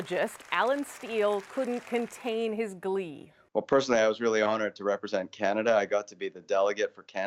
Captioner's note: speaking French